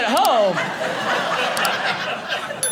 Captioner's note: audience laughing